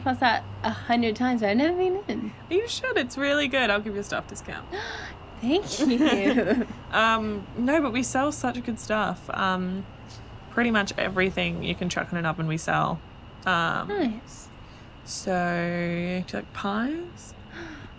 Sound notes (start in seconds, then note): 5.5 both laughing